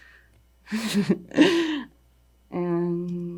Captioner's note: laughing